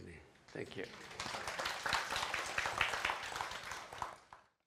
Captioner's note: applause